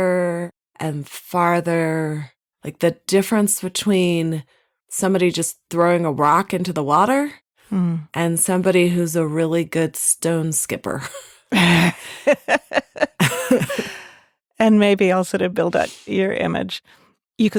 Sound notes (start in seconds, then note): 11.5 laughs